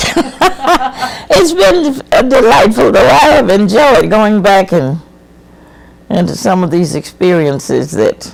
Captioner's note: laughs